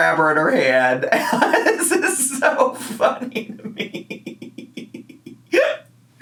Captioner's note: laughs